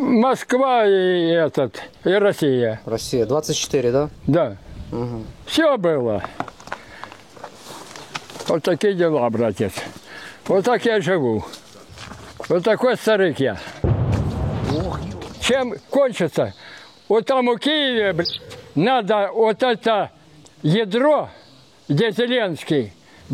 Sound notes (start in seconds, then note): 13.8 sound of explosion